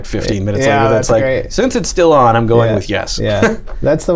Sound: laughter

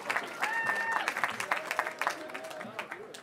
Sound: cheering

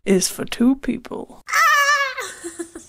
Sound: screaming

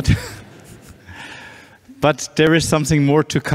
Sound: chuckling

